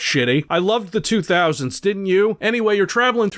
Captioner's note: sarcastically